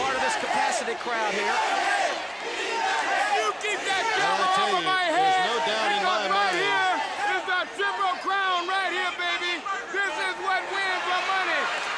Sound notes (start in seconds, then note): 0.7 crowd cheering; 3.8 crowd chatter